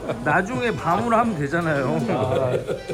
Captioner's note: chaotic hamster laughter